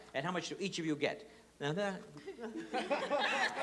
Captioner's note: laughter